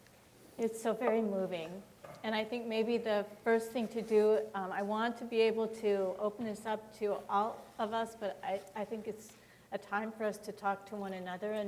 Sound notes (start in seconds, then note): none